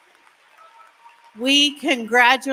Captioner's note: applause